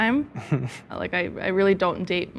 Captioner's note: chuckles